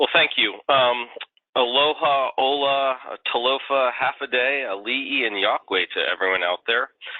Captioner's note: speaking foreign languages